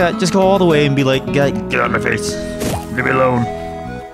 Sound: in a gruff angry voice

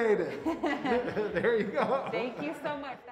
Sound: both chuckle

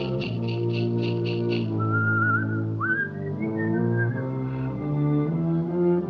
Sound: whistles

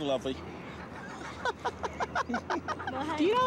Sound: woman laughs

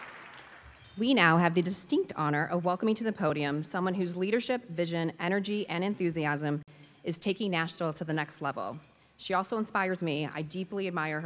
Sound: applause

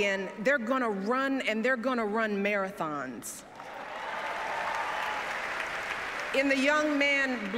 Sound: applause

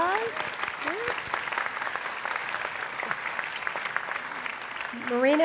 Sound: applause

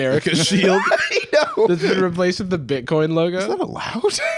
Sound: laughing

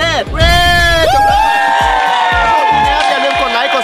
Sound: cheering

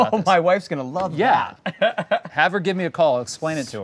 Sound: laughs

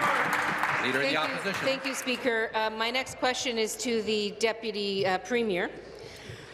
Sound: applause

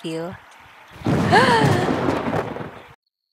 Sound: lightning; heart broken gasp

